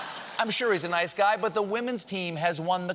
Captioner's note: cheers and applause